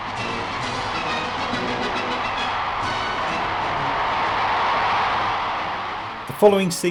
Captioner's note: crowd roaring